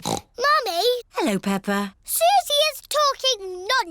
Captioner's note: snorts